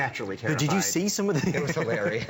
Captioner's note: laughter